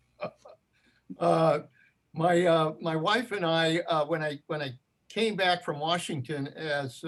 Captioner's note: laughs